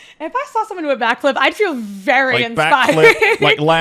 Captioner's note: laughs